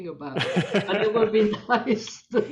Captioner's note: laughing